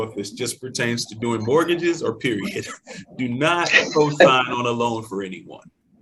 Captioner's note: laughs